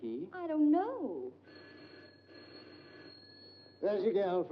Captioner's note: phone rings